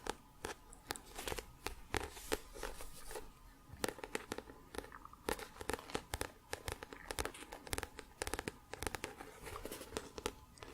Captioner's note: tapping on book